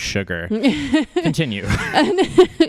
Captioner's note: laughs